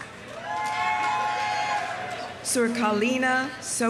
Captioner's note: audience applauding; audience cheering